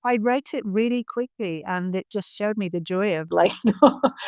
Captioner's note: laughs